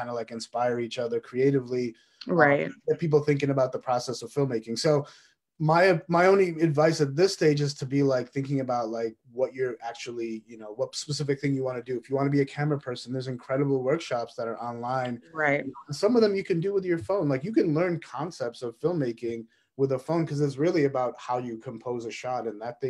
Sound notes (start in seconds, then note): none